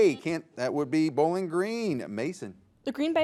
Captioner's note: buzzer beeps